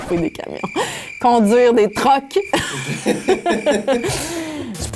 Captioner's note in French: rires